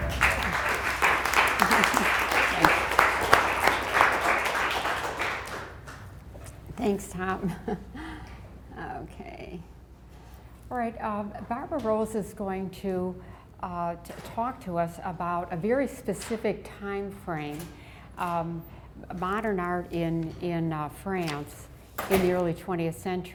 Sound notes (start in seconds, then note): 0.0 applause; 7.2 chuckles